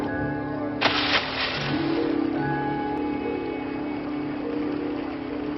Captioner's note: water splashing